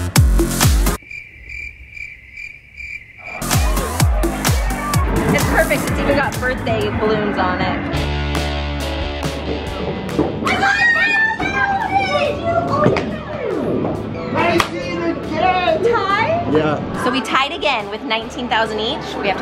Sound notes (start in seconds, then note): 0.9 crickets chirping; 7.9 rock music